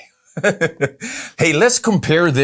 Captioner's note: laughs